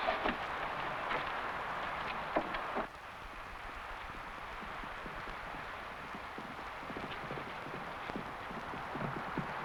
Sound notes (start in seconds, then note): 4.4 horse hooves pattering